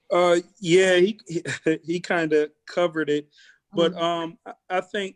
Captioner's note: laughs